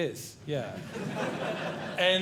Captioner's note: audience Laughing